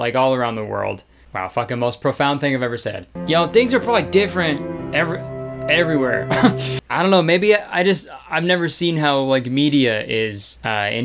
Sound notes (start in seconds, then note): 6.2 laughing